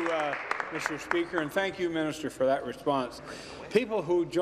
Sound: applause

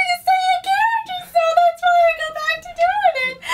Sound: laughs

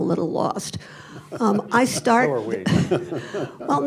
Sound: laughs; laughter

